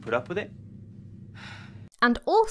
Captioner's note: sigh